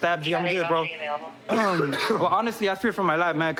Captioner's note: coughs